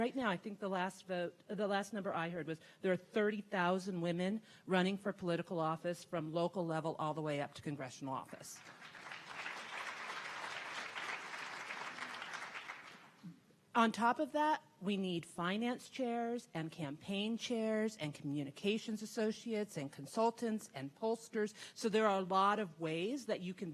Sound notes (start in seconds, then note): 8.6 audience clapping